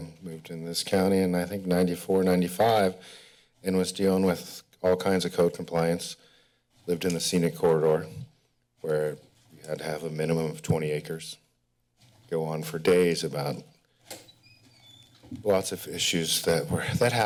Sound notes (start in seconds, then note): 11.3 pause